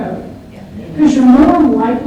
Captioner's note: audience agrees